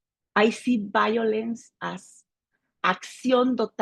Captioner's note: speaking Spanish